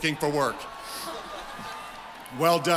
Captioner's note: cheering